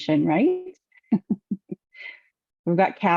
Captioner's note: laughs